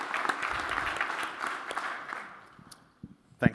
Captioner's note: applause